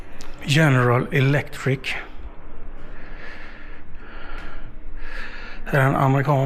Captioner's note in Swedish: drar efter andan